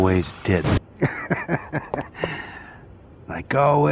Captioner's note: chuckling